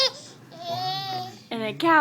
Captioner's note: laughing